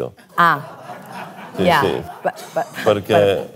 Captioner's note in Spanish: irónicamente; risas